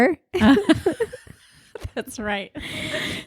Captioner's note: both laughing